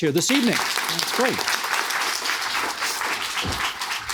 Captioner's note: audience clapping